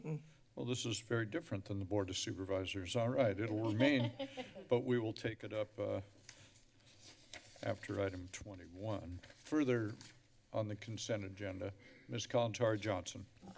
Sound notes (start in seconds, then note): 3.6 laughs; 6.1 rustling sounds; 6.7 paper rustling